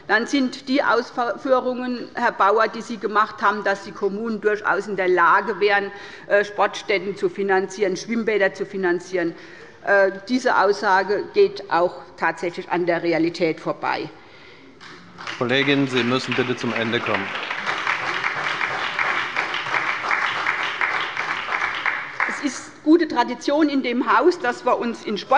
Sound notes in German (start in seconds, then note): 14.8 Beifall bei der SPD